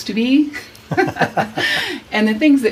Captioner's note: both laugh